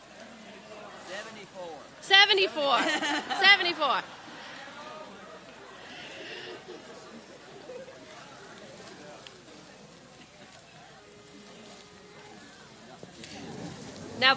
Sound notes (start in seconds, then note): 2.8 person laughs; 4.6 people chatter indistinctly; 7.9 people laugh; 11.7 harmonica trills